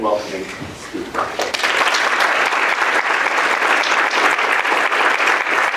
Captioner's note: applause